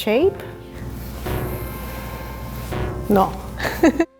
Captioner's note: electronic thud; giggle